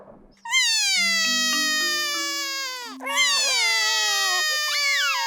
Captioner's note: both crying